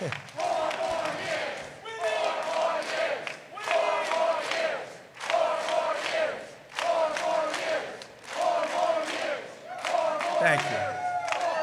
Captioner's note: chanting "four more years!"